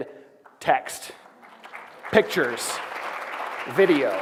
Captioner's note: applause